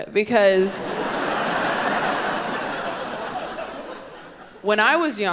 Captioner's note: audience laughing